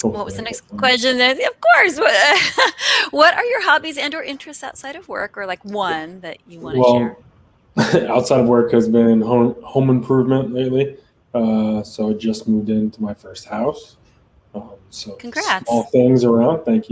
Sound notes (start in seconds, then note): 2.0 laughs